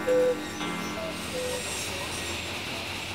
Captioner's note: sound of circular saws